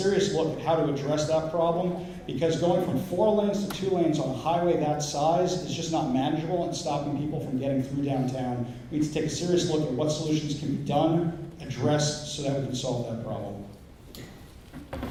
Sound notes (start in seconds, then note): none